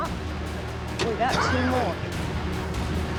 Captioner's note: coughs